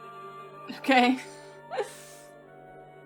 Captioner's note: laughs